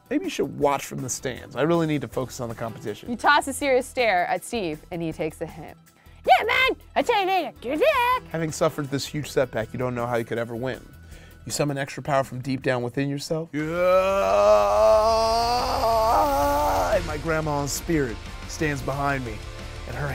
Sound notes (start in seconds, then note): 13.6 intense music; 13.6 screams